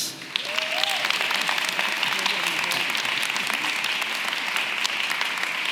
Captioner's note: audience clapping and cheering